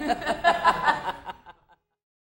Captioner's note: laughing